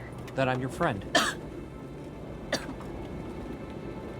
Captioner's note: coughs